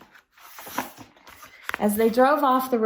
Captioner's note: turns page